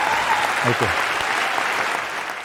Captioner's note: applause